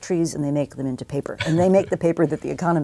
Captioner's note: laugh